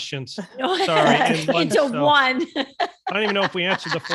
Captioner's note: laughing